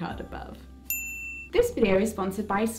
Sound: bell sfx

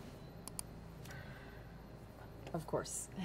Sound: button clicks

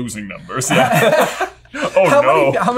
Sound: laughter

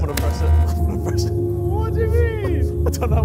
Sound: buzzer beeps

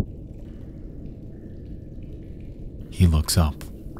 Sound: water dripping

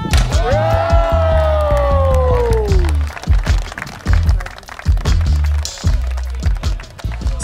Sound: applause

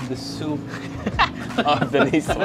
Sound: chuckles

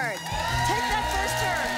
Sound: applause

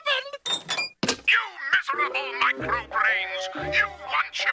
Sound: Robotnik yelling

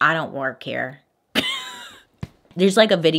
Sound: laughs

